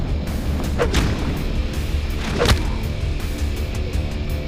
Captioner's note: thudding